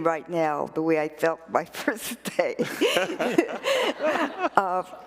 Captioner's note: laughter